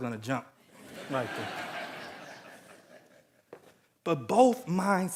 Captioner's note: audience laughing